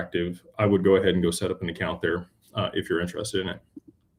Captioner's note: none